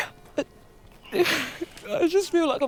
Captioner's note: Grace crying; bell chiming